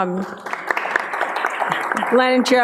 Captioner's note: applause